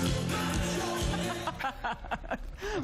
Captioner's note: laughing